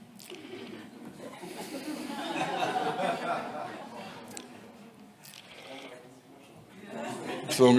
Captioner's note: laughter in the background